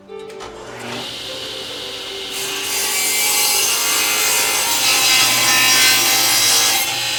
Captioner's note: reflective music; saw buzzes